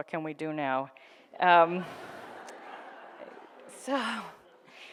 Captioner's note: audience laughs